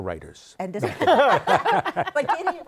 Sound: laughter

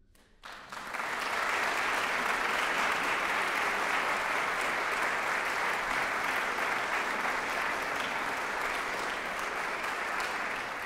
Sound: applause

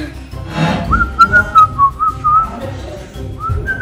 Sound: whistling

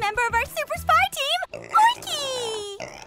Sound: oinky snorts

